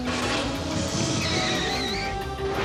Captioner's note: skids